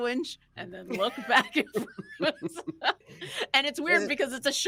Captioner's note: people chuckling